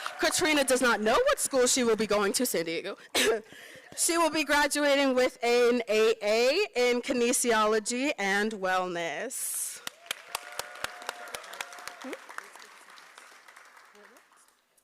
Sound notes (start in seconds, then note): 3.1 coughs; 9.8 applause